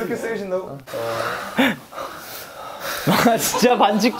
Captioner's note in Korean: 숨~ / ㅋㅋㅋㅋㅋㅋㅋㅋ